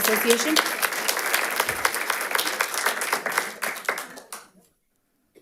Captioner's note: audience applauding